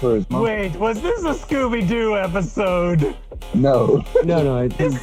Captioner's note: laughter